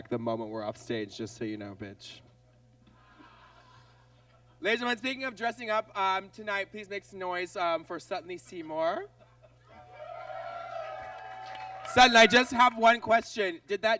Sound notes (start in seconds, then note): 2.5 audience laughs; 9.8 audience cheers